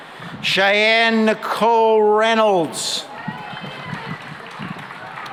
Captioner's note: applause